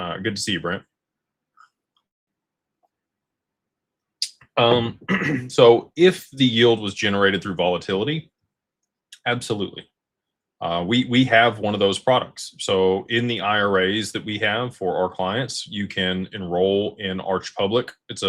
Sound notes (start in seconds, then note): 4.6 clears throat